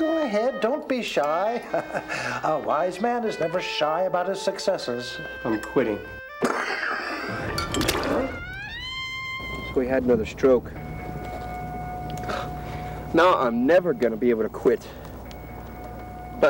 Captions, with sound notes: Go ahead, don't be shy. A wise man is never shy about his successes. - I'm quitting. (Pap coughs) (instrumental music intensifies) We had another stroke. Now, I'm never gonna be able to quit.